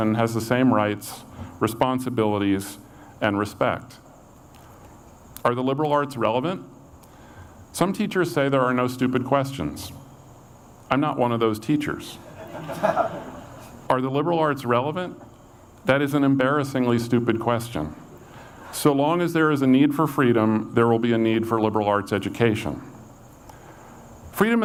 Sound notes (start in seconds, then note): 12.3 audience laughs